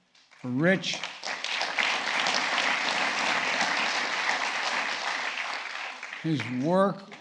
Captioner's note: applause